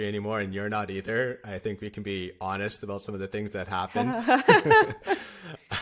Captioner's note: laughter